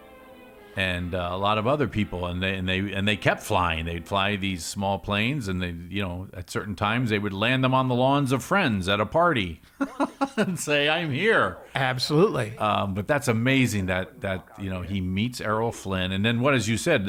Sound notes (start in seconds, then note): 9.7 laughs